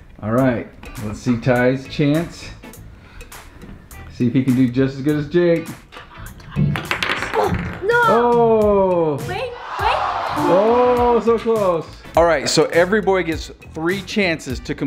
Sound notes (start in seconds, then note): 6.4 ball clacks; 9.4 disappointed crowd